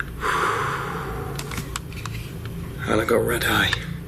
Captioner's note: loud exhaling